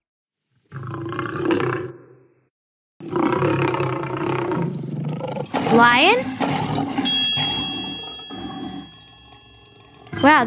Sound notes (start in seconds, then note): 0.8 animal growling; 7.0 bell dings; 7.3 lion roaring